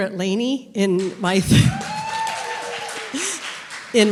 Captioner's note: applause and cheering